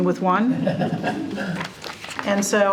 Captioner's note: board chuckling